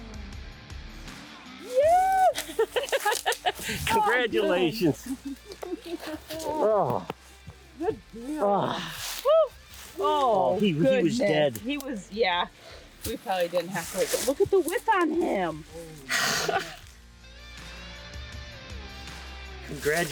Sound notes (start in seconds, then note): 1.7 laughs; 16.0 upbeat music continues